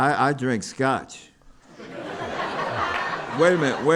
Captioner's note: laughter